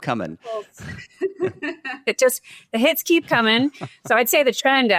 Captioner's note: laughs